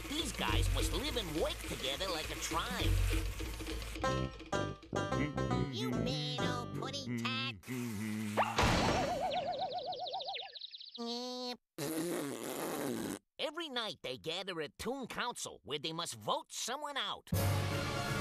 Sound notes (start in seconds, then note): 7.7 humming; 11.0 jeering